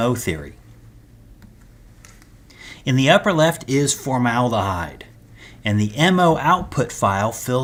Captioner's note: turn page